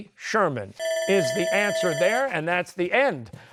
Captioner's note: bell ringing